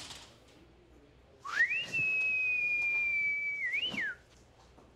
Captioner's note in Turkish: Islık çalıyor